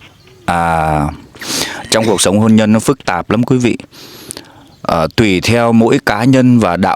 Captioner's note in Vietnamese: khịt mũi